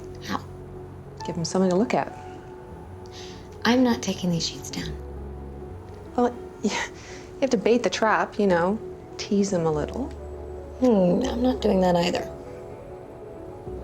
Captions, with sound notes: How? Give him something to look at. I'm not taking these sheets down. Well... (SCOFFS) You have to bait the trap. You know... Tease them a little. Hmm. I'm not doing that either.